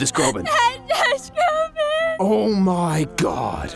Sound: still crying

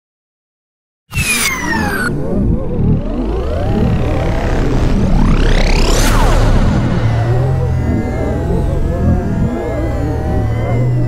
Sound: sound of morphing

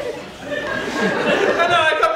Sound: audience laughter

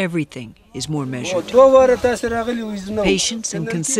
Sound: speaking foreign language

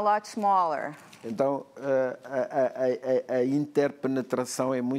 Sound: speaking portuguese

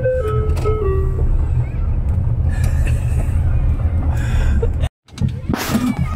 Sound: screaming children

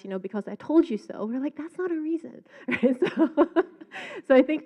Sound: laughs

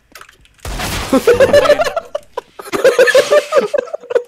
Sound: laugh

